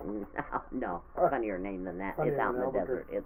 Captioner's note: laughing